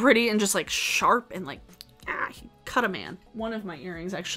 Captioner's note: growls